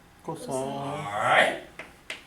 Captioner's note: voiceover